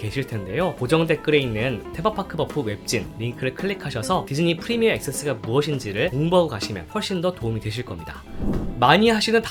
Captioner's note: korean Only